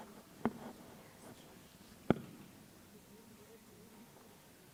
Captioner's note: audience chattering